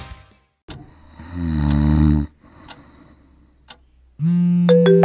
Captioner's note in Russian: звук храпа; звон телефона